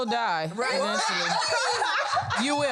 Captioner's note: everyone laughs